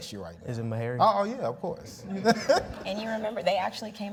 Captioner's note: laughs